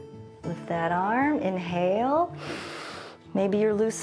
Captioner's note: inhales